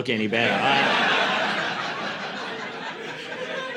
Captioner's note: laughter